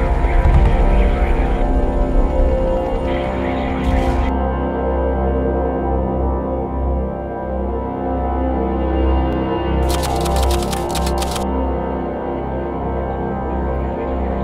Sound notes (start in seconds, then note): 0.1 brooding music; 9.8 typewriter clicking